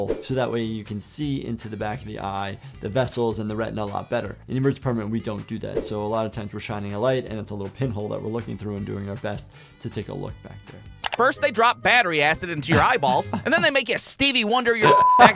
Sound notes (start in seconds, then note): 0.0 screen whooshing; 5.7 screen whooshing; 11.0 button clicking; 12.7 chuckling; 14.8 beep